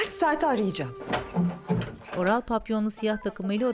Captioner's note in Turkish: Kapı açılma sesi